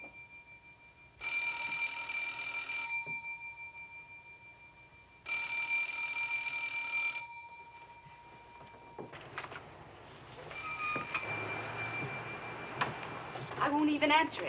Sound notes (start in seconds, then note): 0.9 ring; 5.1 ring; 9.1 ringing continues